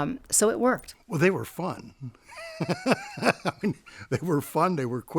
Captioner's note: laughing